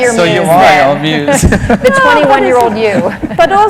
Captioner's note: laughter